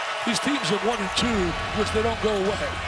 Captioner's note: crowd cheering